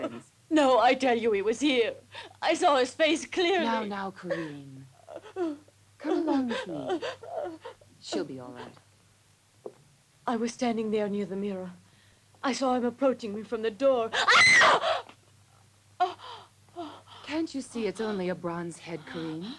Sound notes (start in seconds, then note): 14.1 screams; 16.0 Corinne pants